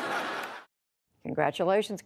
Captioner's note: laughter